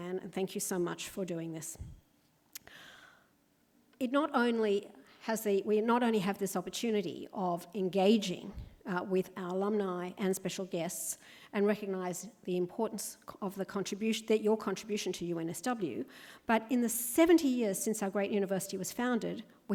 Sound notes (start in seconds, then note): none